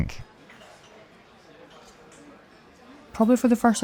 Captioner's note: people chattering